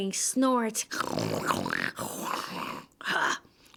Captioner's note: snort!!!